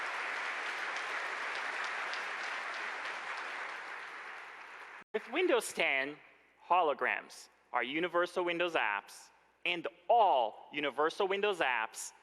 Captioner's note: applause